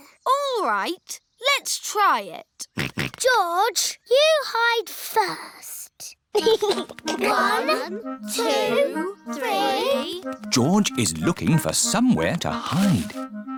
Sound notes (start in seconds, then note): 2.9 snorts; 6.3 chuckles